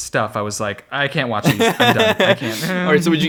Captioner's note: laughs